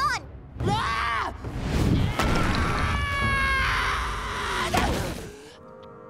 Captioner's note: Sokka screaming